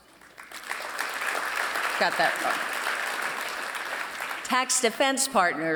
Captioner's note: applause